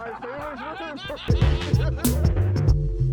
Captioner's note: laughing